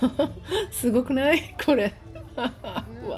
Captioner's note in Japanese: 笑い